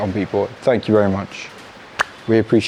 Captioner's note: claps once